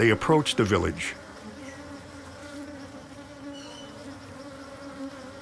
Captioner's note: buzzing